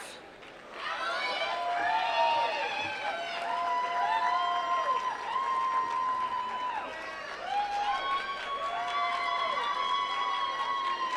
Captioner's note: applause